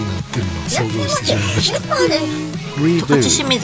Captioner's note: laughs